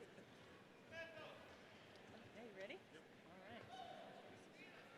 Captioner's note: none